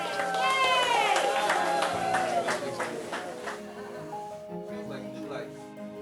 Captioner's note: hospital staff cheering and clapping